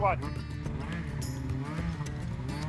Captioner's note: engine accelerating